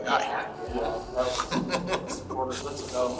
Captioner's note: deputy laughing